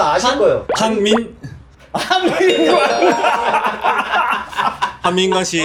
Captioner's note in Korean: 웃음